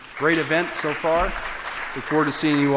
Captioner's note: applause